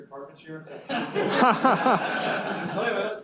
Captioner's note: students laugh